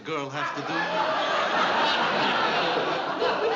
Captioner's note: laughter